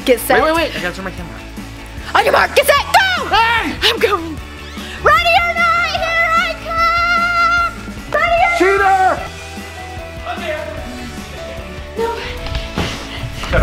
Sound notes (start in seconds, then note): 4.6 screaming